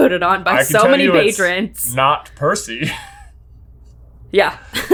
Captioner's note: laughing